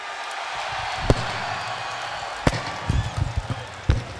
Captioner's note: crowd cheering